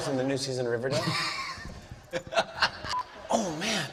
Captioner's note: laughs